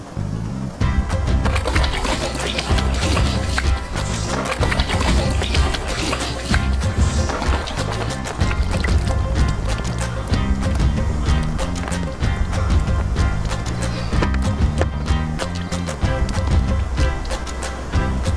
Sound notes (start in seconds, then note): 0.1 sloppy sounds continue; 9.5 breathing carefully